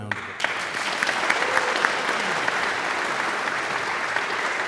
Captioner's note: audience applauds